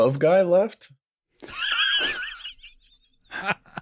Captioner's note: laughter